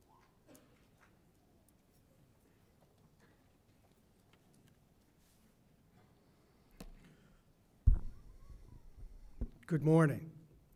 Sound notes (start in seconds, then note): none